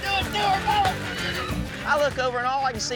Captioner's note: horse neighing